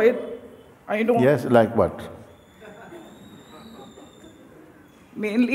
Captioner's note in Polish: śmiech